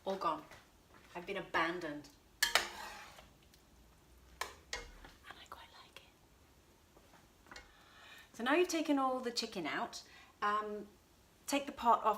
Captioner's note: whisper